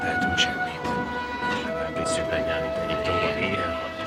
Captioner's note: chattering